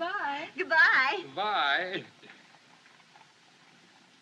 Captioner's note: chuckling